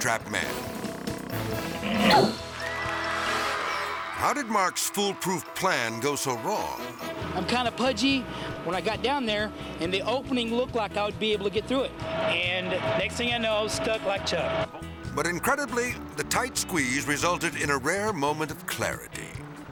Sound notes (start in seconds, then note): 0.3 soundbite squeeze creaking; 1.9 soundbite whips; 2.4 audience applauding